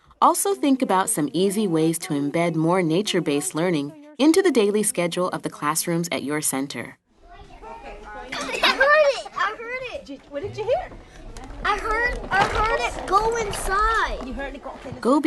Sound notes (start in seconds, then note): 8.2 laughing